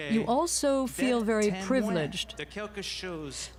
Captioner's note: speaking French